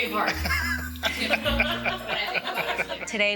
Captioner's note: laughter